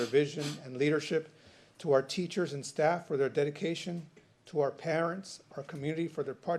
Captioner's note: snorts